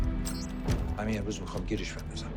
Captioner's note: man in Farsi